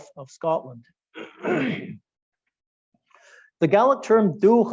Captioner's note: clearing throat